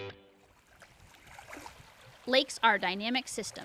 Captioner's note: water lapping